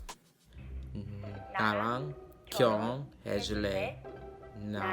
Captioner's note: speaks Korean